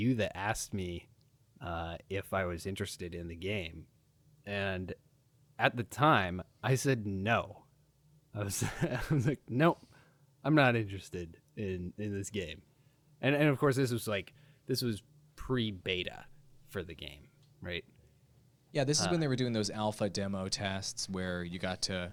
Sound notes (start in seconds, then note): 8.6 laughing